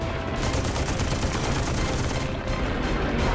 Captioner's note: gunfire